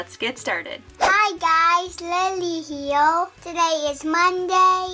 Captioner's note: air whooshing